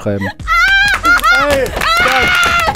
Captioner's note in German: Kreischen, Lachen, Applaus